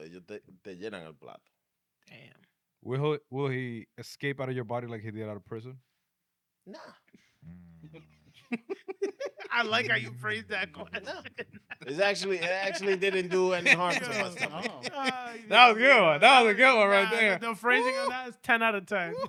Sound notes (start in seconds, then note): 0.1 speaking In Foreign Language; 7.9 laughing